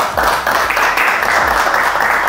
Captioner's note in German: Applaus